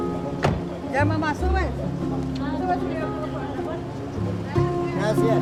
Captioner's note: speaking foreign language